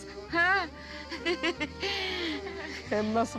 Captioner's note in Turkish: Gülme sesi